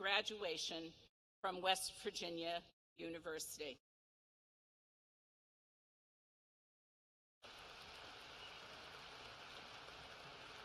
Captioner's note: applause